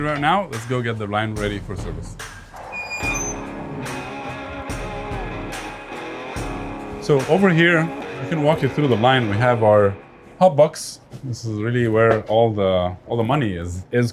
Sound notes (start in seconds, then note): 2.5 door creaks; 3.0 mid-tempo bluesy rock music